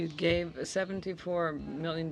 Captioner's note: speaking in french